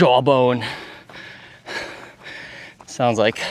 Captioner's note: breathing heavily